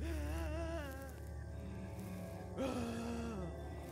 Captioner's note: wailing